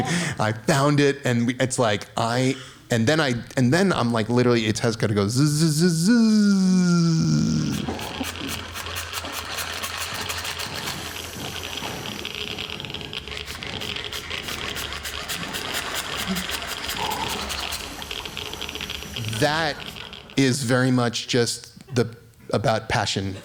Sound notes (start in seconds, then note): 7.4 light buzzing